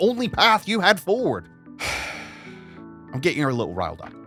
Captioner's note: he sighs